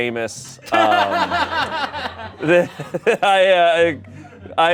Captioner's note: everyone laughs